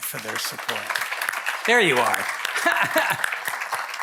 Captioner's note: audience applauding; laughing